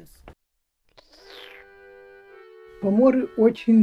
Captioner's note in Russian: прихлебывает чай